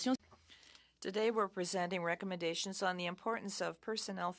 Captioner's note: speaking in French